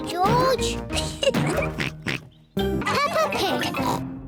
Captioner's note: oinks; laughs; oinks